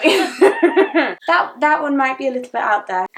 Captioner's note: both laughing